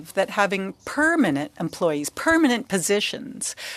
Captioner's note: speaking french